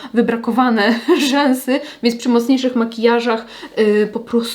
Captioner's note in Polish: śmiech